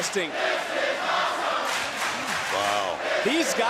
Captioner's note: crowd chants "this is awesome"